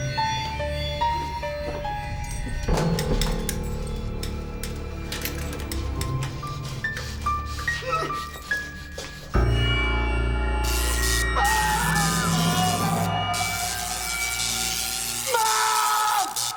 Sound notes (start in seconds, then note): 11.4 paul screams